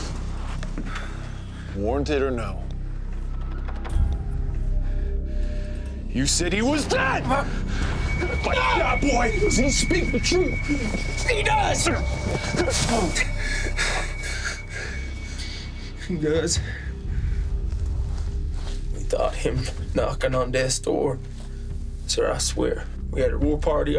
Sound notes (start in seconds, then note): 3.8 tense music; 8.5 fighting, skirmishing sounds; 14.9 panting